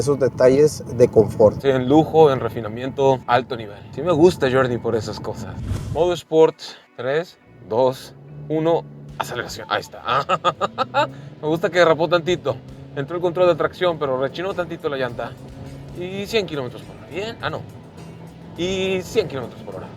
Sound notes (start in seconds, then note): 10.0 laughter